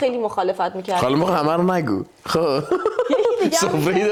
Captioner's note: laughs